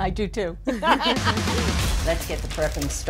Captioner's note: laughter